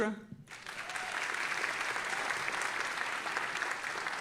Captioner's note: audience applauding